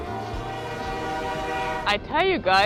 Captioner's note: train whistles